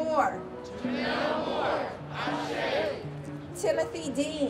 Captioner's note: crowd